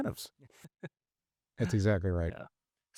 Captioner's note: chuckles